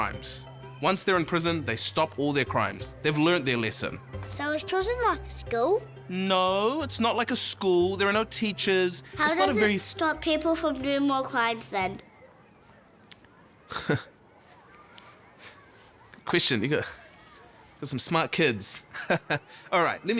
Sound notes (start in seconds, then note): 13.6 laughs